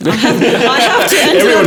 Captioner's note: laughing